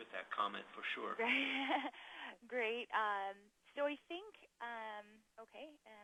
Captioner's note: laughs